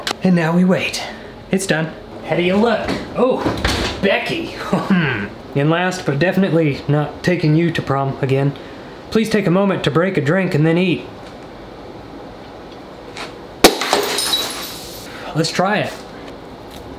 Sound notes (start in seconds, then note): 4.6 man chuckles; 13.6 glass shattering